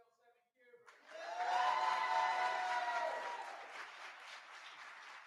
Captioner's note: cheering